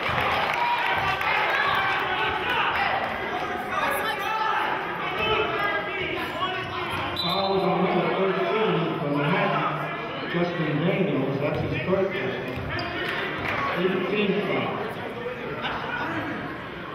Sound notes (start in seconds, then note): 0.0 applauding; 7.1 whistling